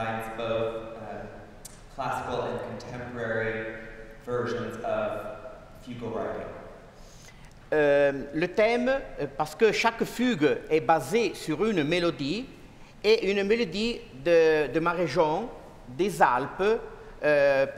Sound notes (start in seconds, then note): 9.2 speaking french